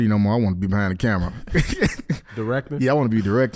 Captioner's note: HaHa laughs